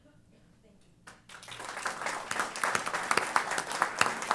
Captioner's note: applause